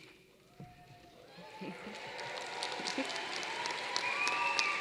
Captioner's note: applause